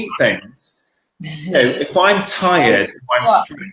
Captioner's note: laughing